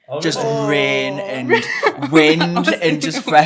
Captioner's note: laughs; laughing